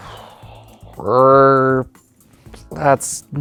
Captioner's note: exhales; groans